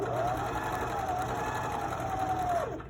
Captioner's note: sewing machine hums